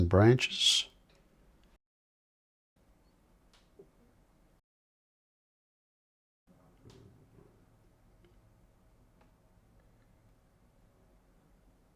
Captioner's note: silence